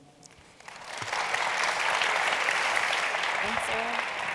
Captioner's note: audience applauding